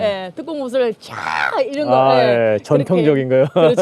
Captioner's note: shouts